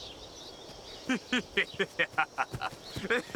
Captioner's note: laughing